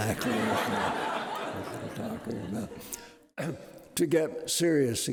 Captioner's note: audience laughing